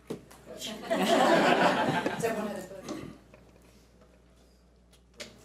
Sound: audience laughs

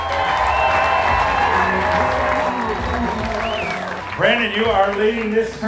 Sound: audience applause and cheers

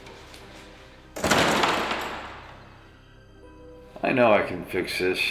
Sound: dramatic music; door thudding

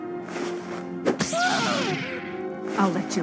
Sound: punching and pain noises D

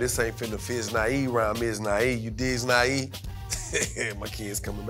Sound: speaks gibberish; laughs

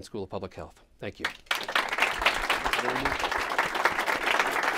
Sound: applause

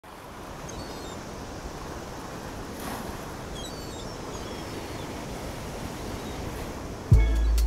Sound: ocean sounds

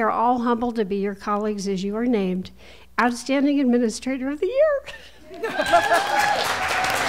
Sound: applause

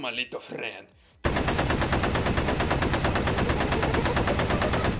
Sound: gun fires

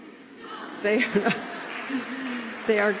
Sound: laughter

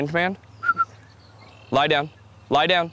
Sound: whistles

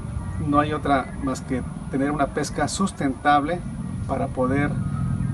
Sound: speaking Spanish

